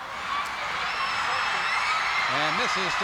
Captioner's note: crowd cheers